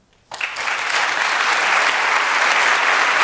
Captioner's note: applause